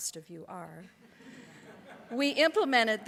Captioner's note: audience laughs